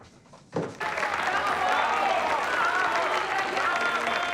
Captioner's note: applause